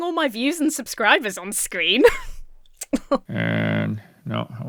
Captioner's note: laughs with mock modesty